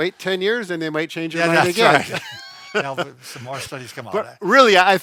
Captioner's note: both laughs